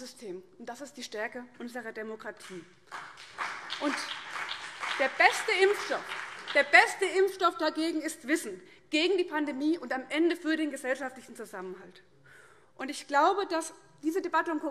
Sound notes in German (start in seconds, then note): 2.8 Vereinzelter Beifall CDU und BÜNDNIS 90/DIE GRÜNEN